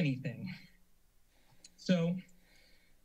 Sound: silence

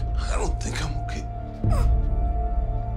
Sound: groans

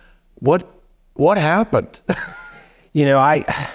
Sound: laughing

